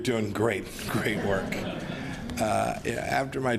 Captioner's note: laughter